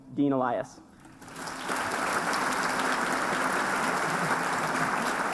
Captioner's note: applause